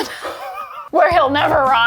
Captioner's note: laugh